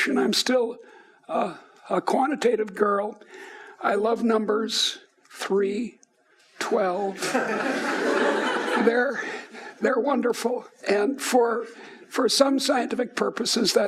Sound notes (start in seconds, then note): 7.2 laughing